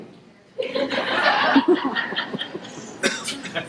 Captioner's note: audience laughing